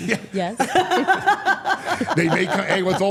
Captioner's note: all laughing